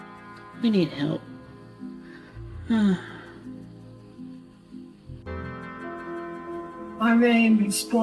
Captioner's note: sigh